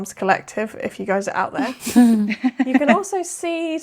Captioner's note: laughing